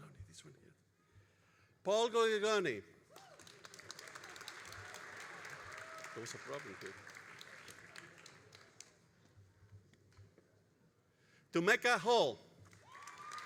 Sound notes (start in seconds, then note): 3.1 all applauding; 12.6 all applauding and cheering